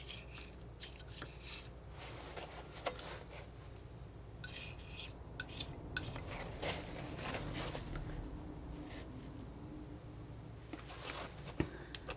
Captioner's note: scratching